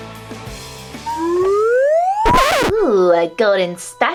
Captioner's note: cartoonish sound